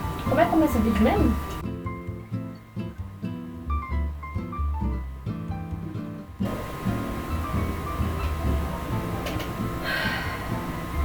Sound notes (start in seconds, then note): 1.6 background music; 9.8 sigh